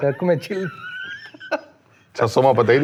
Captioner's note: laughs